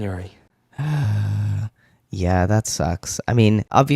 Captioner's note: sigh